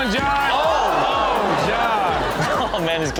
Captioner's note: audience exclaims